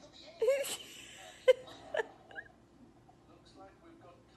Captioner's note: laughing